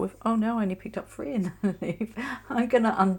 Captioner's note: chuckles